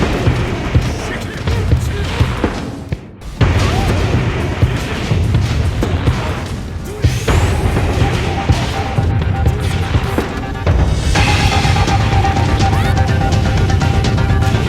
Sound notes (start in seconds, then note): 3.7 in-game sounds and music